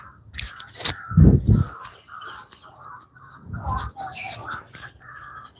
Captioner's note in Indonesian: Suara burung